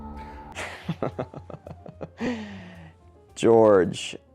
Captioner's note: chuckling